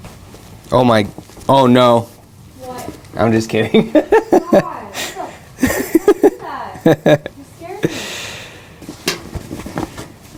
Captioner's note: laughs